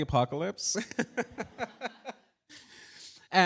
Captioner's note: laughter